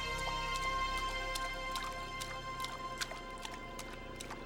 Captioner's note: water splashing